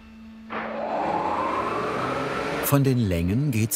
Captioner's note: machine starts